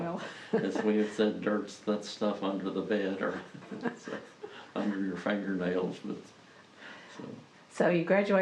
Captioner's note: laughs